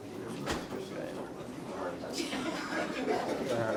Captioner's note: chatter